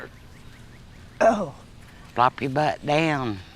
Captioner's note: groans painfully